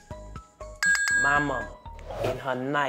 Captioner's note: dinging bell chime